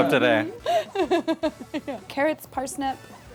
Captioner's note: laughs